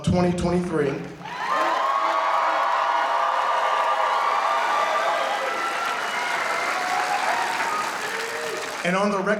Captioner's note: applause